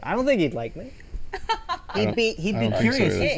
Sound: Emmy laughs

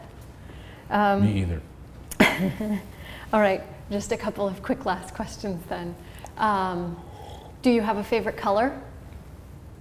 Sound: chuckle

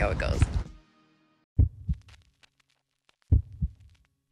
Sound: heart beats

